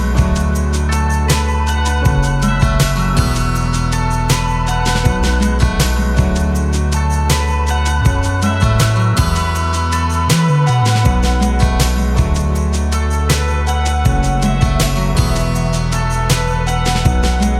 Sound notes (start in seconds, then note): none